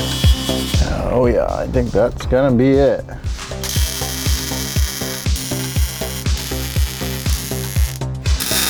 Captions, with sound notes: Oh yeah, I think that's gonna be it. (welding machine buzzing)